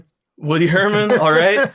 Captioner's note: laughter